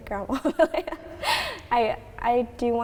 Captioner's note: more laughing